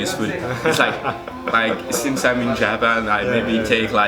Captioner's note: chuckles